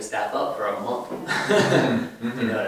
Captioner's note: laughs